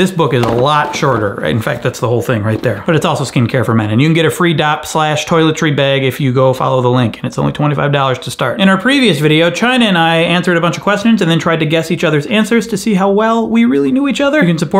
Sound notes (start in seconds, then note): none